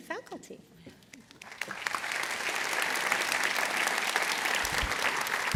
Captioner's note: applause